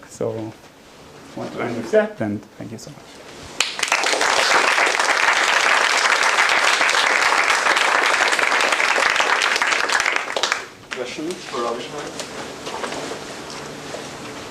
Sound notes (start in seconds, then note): 5.2 applause